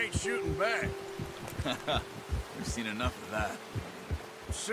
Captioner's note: laughs